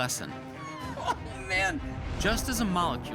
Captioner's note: laughing